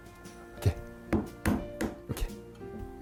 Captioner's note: hammering sound